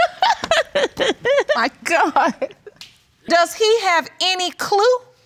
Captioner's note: laughs